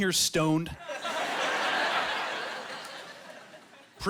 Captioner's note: laughing